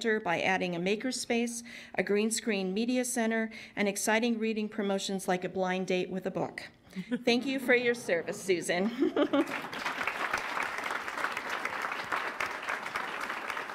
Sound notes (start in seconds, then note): 6.9 laughter; 9.2 applause